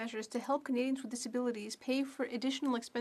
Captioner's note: speaking French